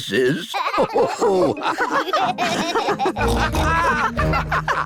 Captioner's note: all laugh